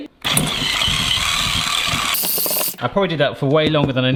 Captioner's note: whisk whizzes